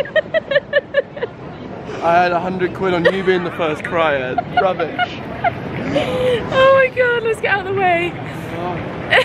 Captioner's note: laughter